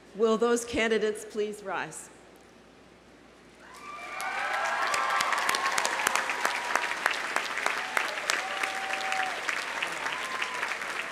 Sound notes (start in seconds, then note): 3.6 audience cheering; 3.7 audience applauding